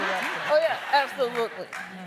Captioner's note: laughing